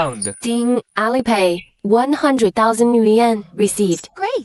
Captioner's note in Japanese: アラート音